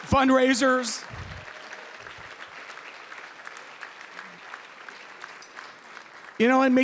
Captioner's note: applause